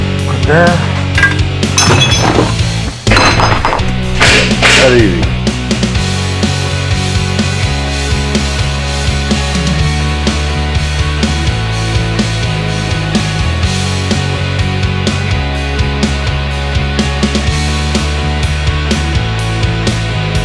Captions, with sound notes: Right there. (thud) That easy. (upbeat music)